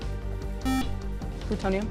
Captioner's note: buzzer